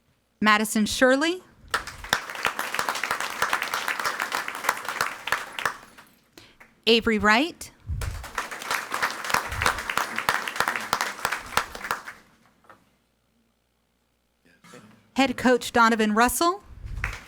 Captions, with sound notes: Madison Shirley. (audience applauding) Avery Wright. (audience applauding) Head Coach Donovan Russell.